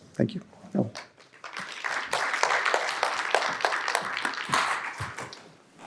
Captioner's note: audience applauds